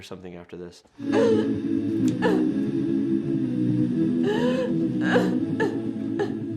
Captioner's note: melancholic music; woman crying